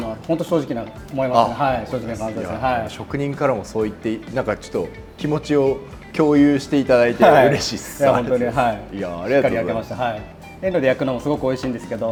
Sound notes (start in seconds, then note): 7.3 joyfully